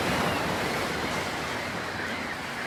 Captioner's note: none